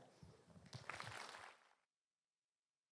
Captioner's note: applause